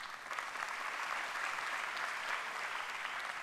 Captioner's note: applause